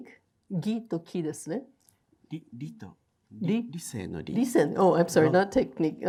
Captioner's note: speaking in foreign language